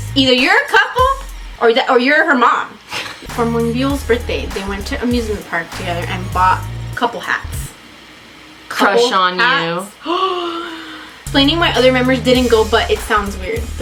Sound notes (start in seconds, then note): 2.9 laughs; 10.0 gasps